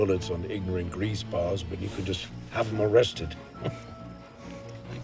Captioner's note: laughs